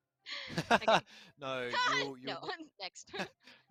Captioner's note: laughs